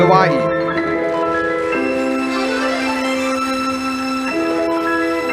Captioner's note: audience applauding